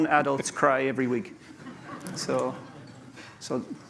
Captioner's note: laughter